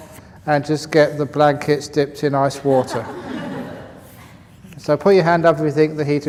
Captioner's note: laughter